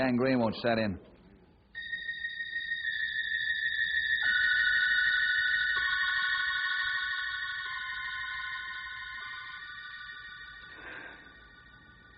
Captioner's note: bell ringing